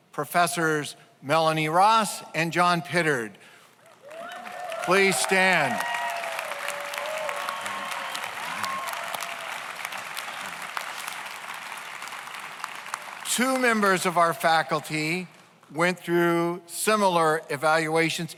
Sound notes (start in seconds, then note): 5.5 audience applauds; 5.5 audience cheers